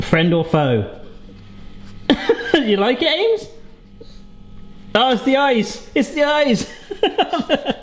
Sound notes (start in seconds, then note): 6.6 laughing